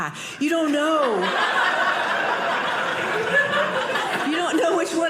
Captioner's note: audience laughing